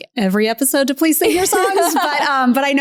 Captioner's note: laughs